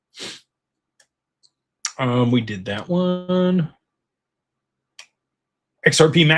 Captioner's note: snorts